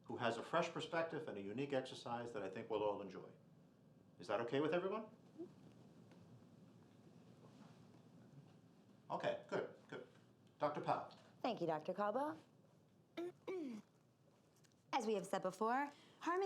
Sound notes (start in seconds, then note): 13.2 clears throat